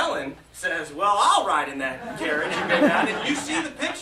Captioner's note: laughter